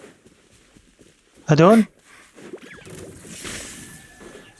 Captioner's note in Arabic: خطى تقترب; شخير; زقزقة العصافير